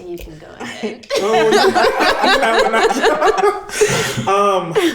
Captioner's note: all laughing